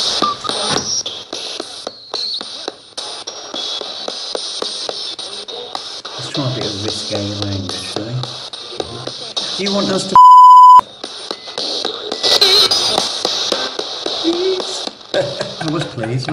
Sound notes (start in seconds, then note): 10.1 beep; 15.1 laughs